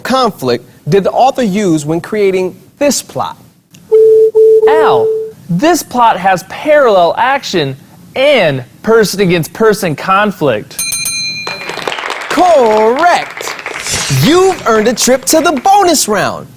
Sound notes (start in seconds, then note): 4.0 buzzer sounds; 10.8 bell sound